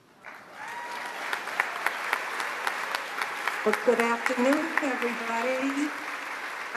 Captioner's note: applause